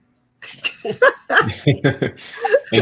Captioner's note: laughter